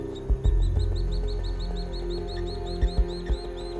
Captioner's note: bird screeches